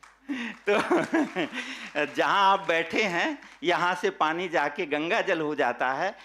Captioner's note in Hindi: हंसी